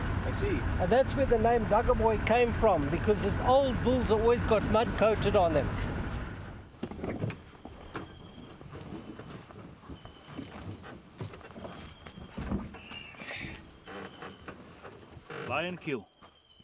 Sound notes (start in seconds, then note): 6.2 crickets chirping; 10.5 footsteps thudding